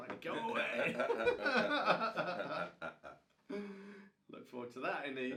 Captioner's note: both men laugh